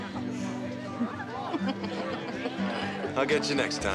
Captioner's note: both laughing